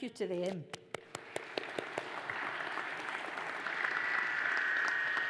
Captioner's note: audience applauds